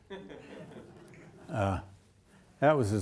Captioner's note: audience laughing